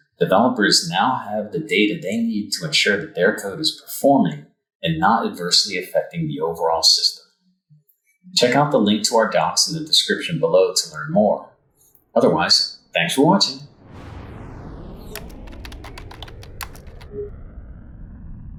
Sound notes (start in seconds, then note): 14.1 spaceship engine revving; 15.1 keys typing